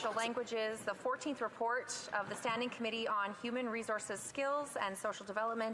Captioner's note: off mic